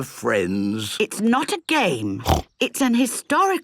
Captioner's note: snorts